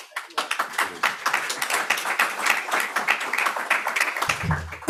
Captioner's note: audience applauding